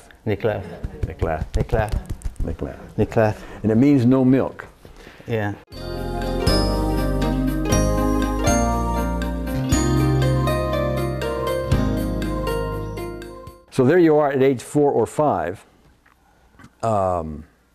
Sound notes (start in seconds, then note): 0.0 speaks in foreign language; 5.7 relaxed music